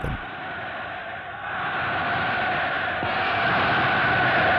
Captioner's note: audience chanting